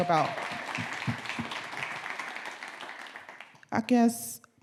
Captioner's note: audience clapping